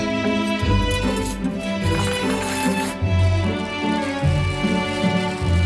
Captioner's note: silverware clanking; plastic rustling